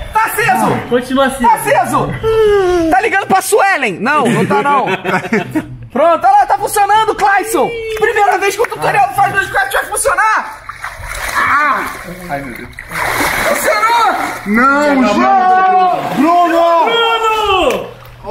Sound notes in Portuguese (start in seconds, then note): 4.2 risadas